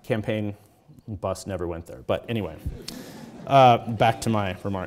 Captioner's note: audience chuckles